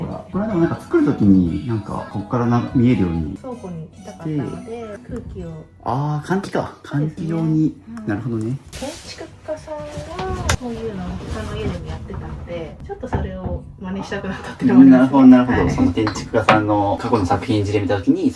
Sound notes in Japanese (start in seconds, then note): none